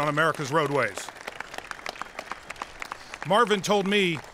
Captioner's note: applause